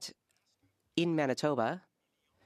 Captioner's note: speaking French